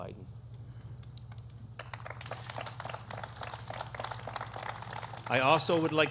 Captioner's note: applause